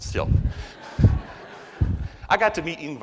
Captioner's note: audience laughs